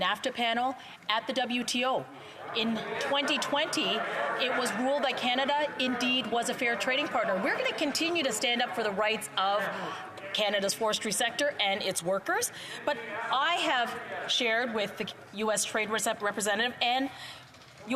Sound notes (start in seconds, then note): none